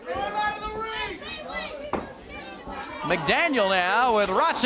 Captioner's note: crowd chatter